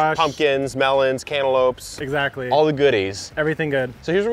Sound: none

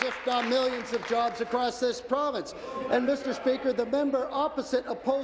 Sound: applause

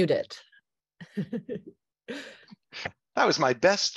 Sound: laughs

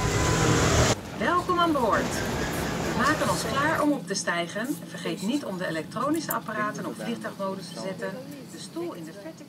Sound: inflight announcement in Dutch

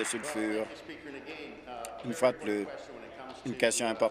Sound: applause

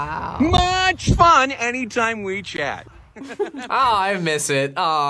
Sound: laughs

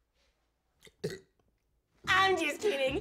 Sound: burps

